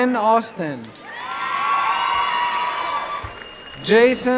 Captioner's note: applause and cheering